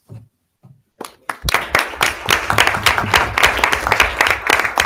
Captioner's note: audience applauding